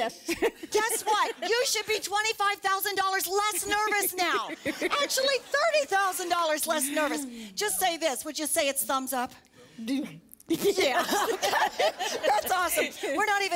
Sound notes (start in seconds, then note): 0.1 laughter; 10.1 stutters; 10.7 laughter